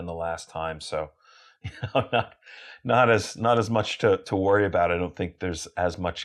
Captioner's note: laugh